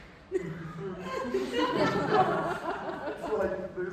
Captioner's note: sobbing